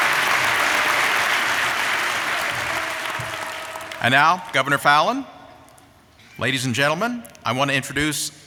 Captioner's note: applause